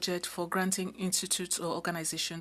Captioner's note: speaking French